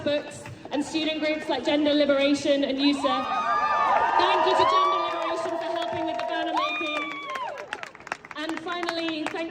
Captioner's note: crowd cheers